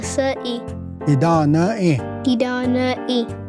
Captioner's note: repeats fourth word in Cherokee